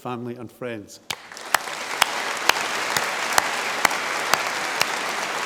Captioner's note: audience applause